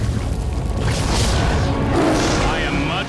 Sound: flames surge. Lion roar

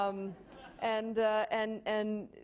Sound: laughing

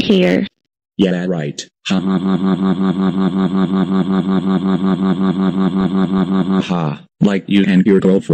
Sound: laughing

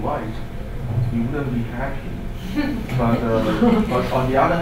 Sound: group laughs

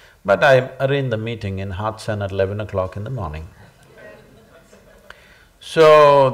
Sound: laughter

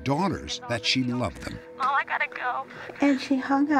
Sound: on phone

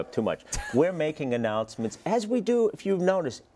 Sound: laugh

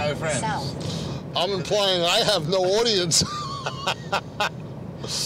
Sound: laughs

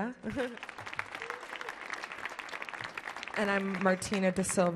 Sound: audience clapping; laughs

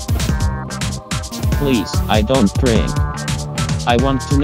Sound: male robot voice

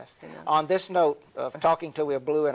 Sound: laughs

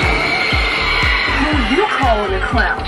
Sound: motion activated zombie decoration moans; screaming

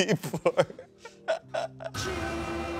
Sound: laughs; dramatic music

